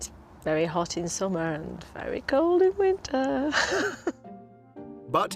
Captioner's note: laughing